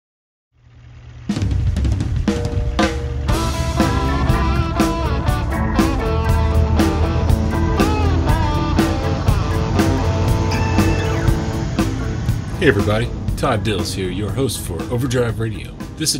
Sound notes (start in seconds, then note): 1.5 truck engine rumbling; 1.5 upbeat drumming; 3.9 lively electric guitar music